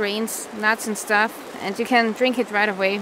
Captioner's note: none